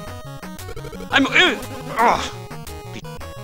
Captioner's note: nervous cries